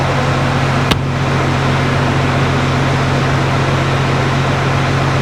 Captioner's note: engine revving